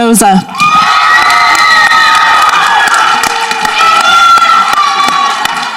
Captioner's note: people applauding and cheering